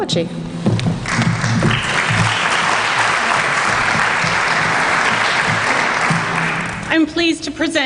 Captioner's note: applause